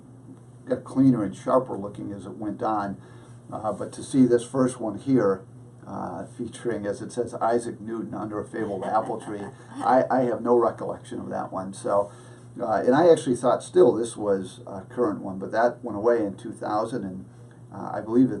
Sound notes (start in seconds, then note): 8.6 laughs